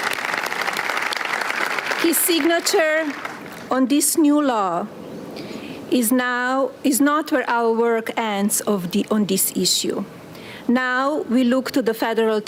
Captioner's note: applause